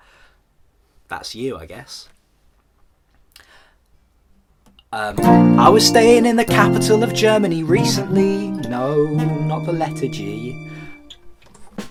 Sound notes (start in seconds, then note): 3.0 silence again